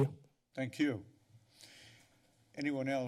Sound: pause

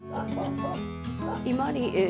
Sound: gentle music; dogs barking

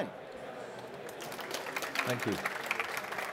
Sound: applause

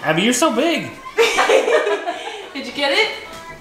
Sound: laughter

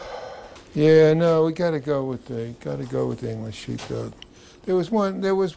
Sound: sighing

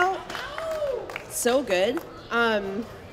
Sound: scattered cheering

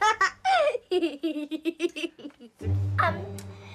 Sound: laughs!

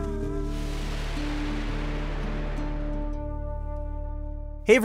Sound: air whooshing

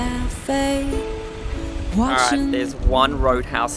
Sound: trucks grumbling

